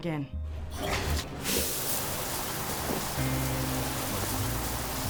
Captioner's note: water splashing; soft music